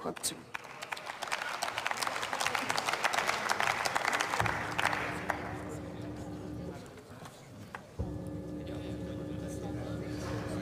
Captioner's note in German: Beifall